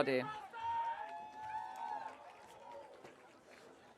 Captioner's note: audience cheering